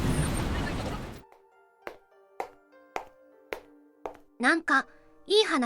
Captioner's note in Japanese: ヒールの靴で歩く音